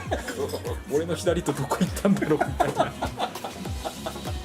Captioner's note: laughs